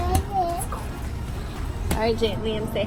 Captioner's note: whispers